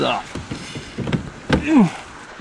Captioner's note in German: Angestrengter Laut